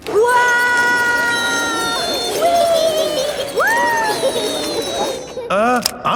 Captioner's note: all yelling